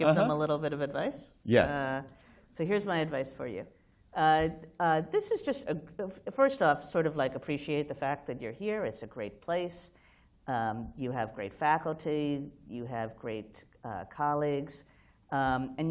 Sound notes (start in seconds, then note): none